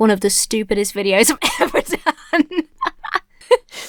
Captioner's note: laughs